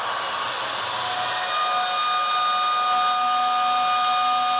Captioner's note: whistle blares